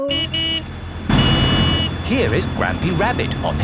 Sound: honking

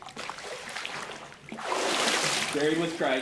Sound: water rippling

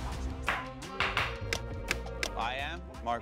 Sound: ticking

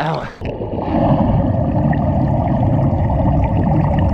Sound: gurgling

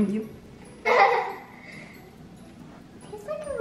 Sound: kids laughing

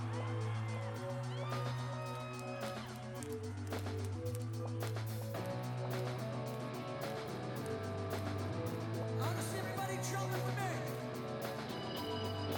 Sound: applause

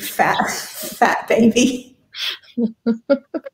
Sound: laughter

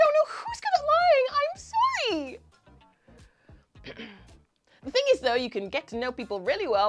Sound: clears thoat

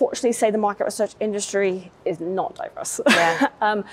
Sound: chuckles

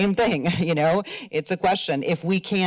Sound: laughs

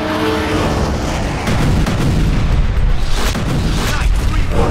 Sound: explosions booming

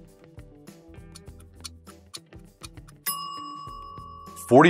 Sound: groovy music; clock ticking; timer dinging

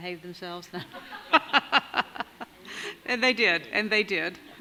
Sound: laughing

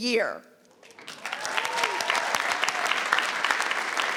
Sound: audience clapping

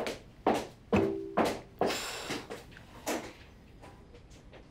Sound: sighing

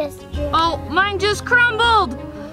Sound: air whooshing

